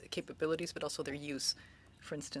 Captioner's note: speaking French